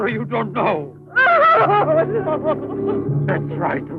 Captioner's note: crying